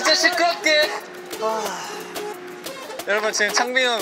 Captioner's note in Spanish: Un gran suspiro